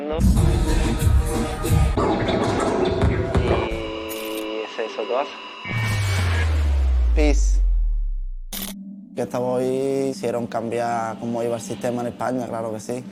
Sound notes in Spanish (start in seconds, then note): 4.5 voz en off